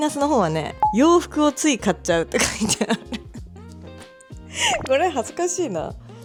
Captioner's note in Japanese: 笑い